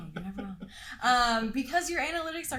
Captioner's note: laughs